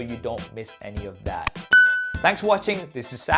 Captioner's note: bell dings